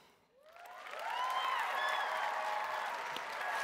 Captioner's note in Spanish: Aplausos